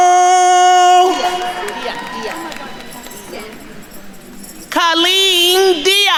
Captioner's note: attendees applauding; group chattering